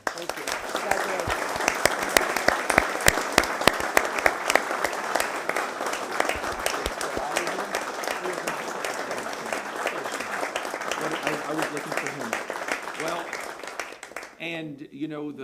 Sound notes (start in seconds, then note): 3.0 applause